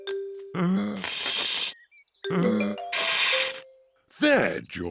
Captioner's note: blowing deeply